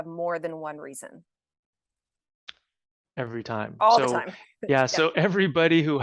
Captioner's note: chuckles